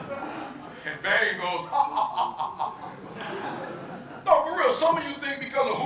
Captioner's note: audience laughing